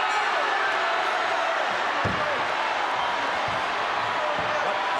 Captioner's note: crowd boos